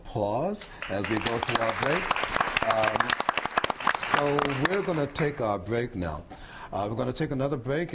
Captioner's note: applause